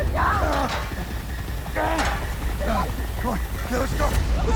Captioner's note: john grunting